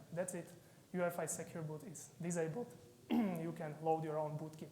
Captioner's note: clears throat